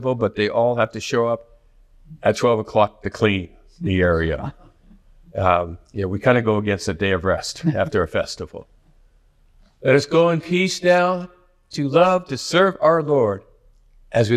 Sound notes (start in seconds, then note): 3.9 chuckles